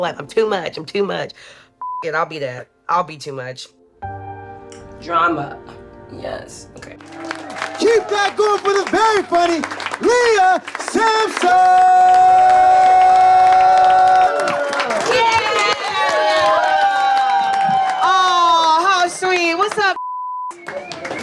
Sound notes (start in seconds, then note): 12.2 audience applauds; 12.2 audience cheers; 20.5 audience cheers